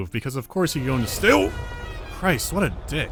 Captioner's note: gaudy horn